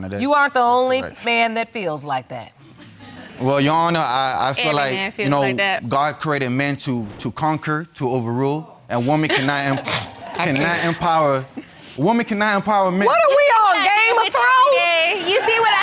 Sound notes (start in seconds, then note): 2.7 audience laughing